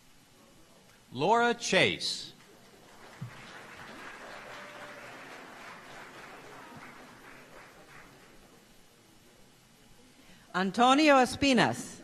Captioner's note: applause